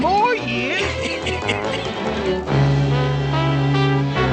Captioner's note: lorax coughs